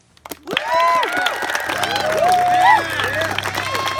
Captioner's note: applause and cheers